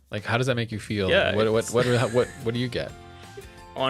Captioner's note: laughs